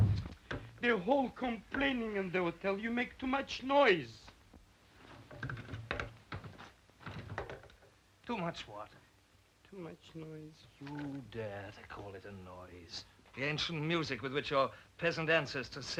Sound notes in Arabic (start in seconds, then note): 5.2 صرير السرير